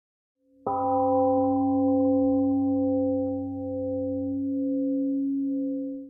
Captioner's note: temple gong rings and fades